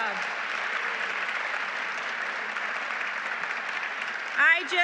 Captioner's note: applause